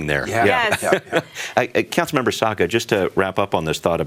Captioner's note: laughs